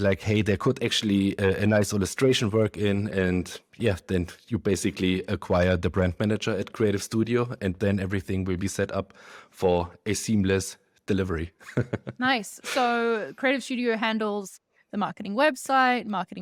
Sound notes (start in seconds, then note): 11.6 laughs